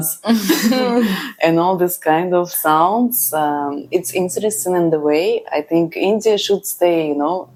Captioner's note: laughs